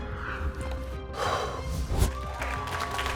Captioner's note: Karamo exhales softly; audience applauds